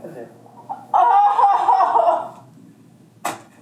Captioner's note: laughs